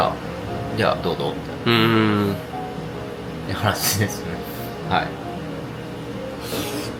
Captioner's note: laugh